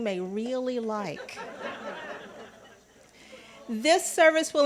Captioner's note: congregants laughing